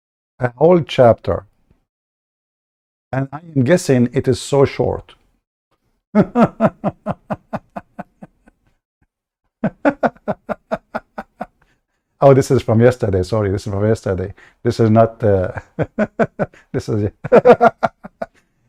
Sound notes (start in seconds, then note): 6.0 Ketawa